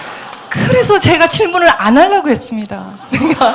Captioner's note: audience Laughter